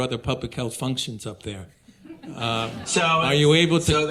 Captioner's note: audience laughing